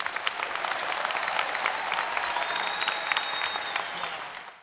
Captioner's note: applause and Cheering